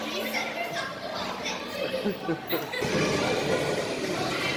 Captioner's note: laughing